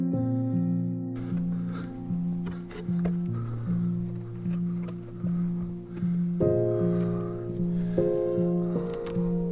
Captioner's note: Ruggiero's labored breathing; continuous dramatic music